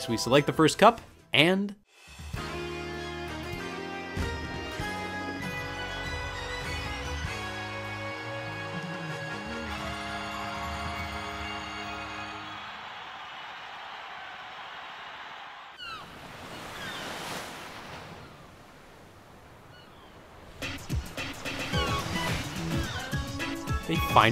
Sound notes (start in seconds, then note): 2.3 upbeat music; 15.7 birds chirping; 20.6 upbeat music